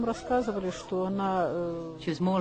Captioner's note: talking in foreign language